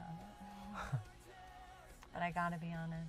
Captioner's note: Wes laughs